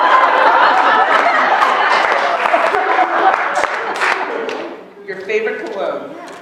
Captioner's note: laughter